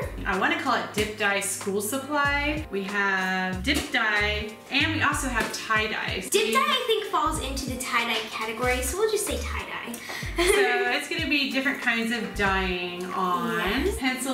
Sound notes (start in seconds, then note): 10.2 laughing